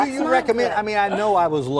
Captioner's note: laughter